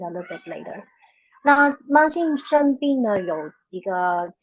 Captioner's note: speaking chinese